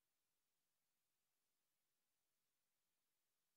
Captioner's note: none